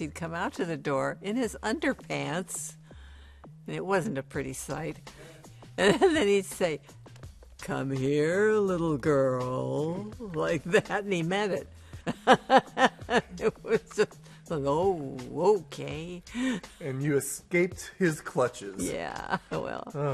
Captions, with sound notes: because he'd come out to the door in his underpants, and it wasn't a pretty sight. And then he'd say, "Come here, little girl," like that, and he meant it. [laughing] It was just... "Oh. Okay." -And you escaped his clutches. -Yeah. Oh, well.